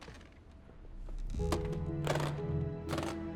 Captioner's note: case clicking shut